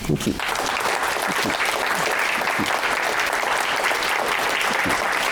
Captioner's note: applause